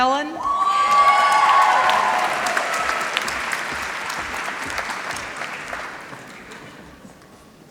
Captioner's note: applause